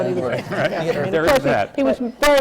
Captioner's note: laughter